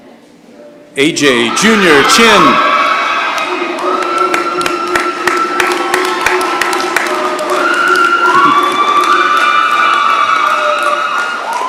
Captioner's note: cheering and applause